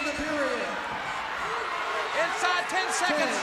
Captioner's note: crowd chatter